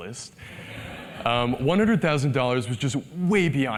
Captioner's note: laugh